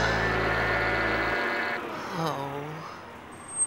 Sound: somber music; crane sighing

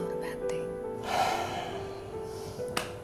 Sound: sighs

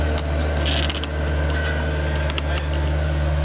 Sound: creaking

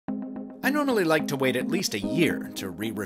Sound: voiceover

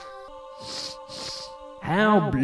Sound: sniff sniff

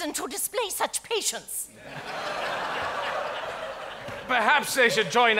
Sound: audience laughs

